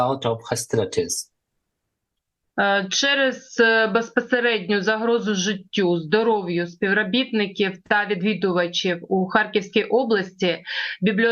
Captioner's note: foreign language